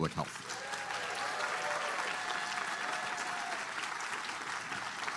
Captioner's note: applause